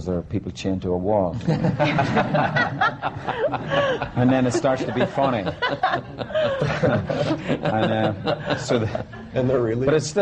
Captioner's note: laughter